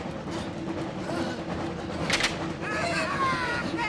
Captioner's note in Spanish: respiran cansados